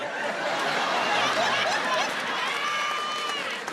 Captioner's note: audience laughing